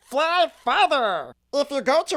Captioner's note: none